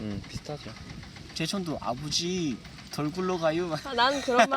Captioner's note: speaking in North Korean dialect